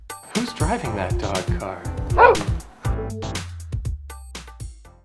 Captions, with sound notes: - Who's driving that dog car? (bark)